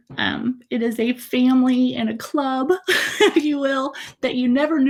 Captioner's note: chuckles